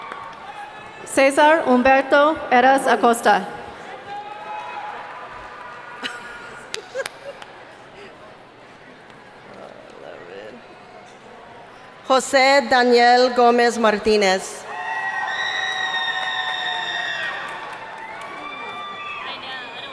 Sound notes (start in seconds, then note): 5.9 laughing; 15.5 clapping